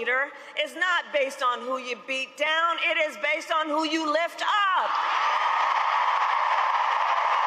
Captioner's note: cheers and applause